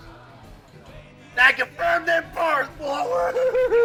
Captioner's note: cheers